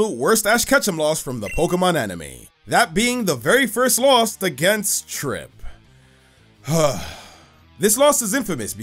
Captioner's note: sigh